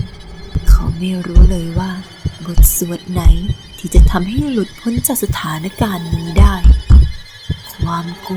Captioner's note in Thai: เสียงทุบประตู